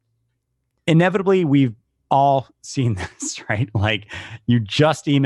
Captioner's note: laughs